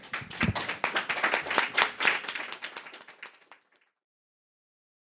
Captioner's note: group applauding; silence